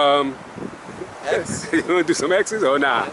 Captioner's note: chuckles